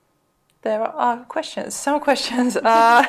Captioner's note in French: rires